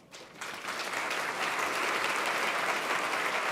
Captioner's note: applause